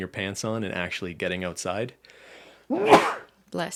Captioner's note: sneeze